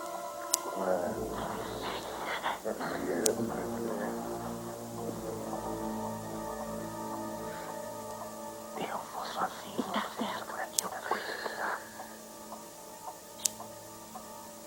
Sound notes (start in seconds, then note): 0.8 Shell grumbles